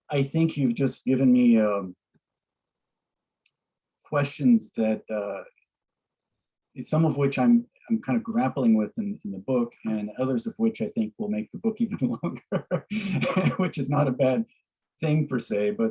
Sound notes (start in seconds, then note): 11.8 laughs